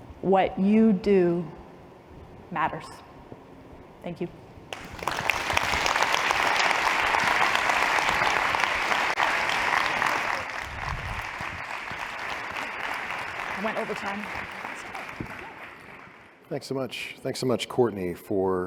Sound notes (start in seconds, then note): 4.6 applause